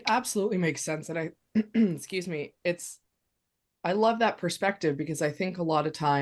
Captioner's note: clears throat